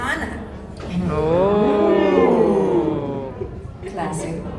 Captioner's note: crowd Oohs